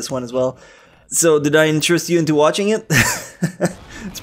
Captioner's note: chuckles